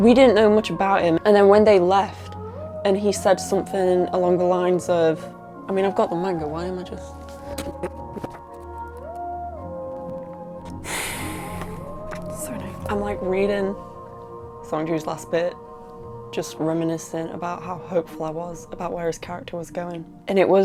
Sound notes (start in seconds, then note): 10.7 sighs